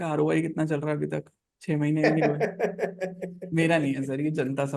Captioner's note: laughs